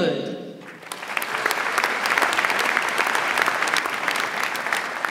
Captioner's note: audience applauds